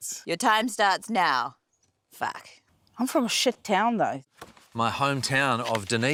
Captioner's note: none